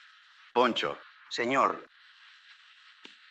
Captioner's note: in spanish